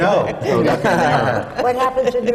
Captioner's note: laughter